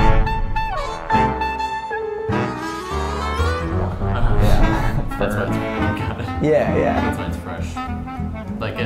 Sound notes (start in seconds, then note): 0.1 upbeat music; 4.1 chatter